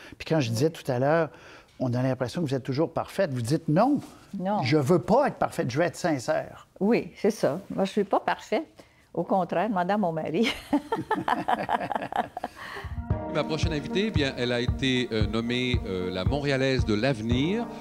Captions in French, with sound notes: quand je disais tout à l'heure : On a l'impression que vous êtes toujours parfaite, vous dites : "Non. Je veux pas être parfaite, je veux être sincère." - Oui, c'est ça. Moi, je suis pas parfaite, au contraire, demandez à mon mari. (rires) - Ma prochaine invitée, bien, elle a été nommée la Montréalaise de l'avenir